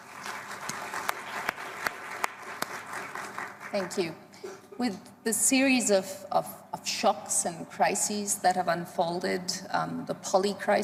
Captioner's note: applause